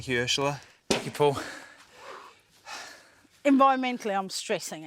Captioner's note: both pant